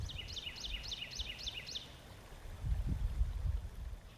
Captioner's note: bird tweeting